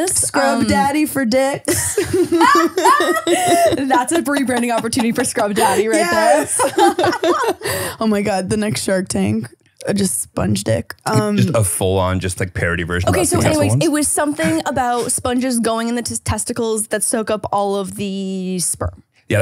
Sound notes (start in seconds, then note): 7.1 both laughing